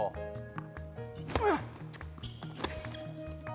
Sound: racket smacking; Marshall grunting; racket smacking

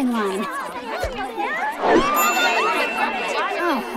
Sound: crowd chattering

